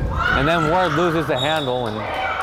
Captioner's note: player screaming